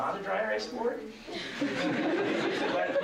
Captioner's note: laughter